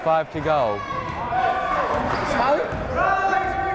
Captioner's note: yelling